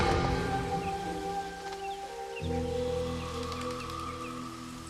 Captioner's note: birds chirping